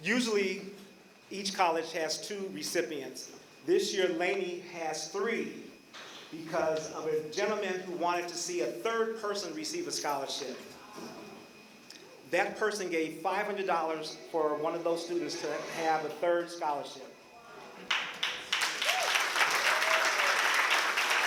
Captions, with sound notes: Usually, each college has two recipients. This year, Laney has three because of a gentlemen who wanted to see a third person receive a scholarship. That person gave $500 for one of those students to have a third scholarship. [APPLAUSE]